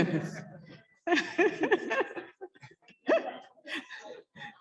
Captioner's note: laughing